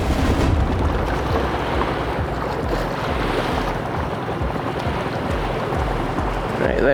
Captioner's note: dramatic music continues; waves crashing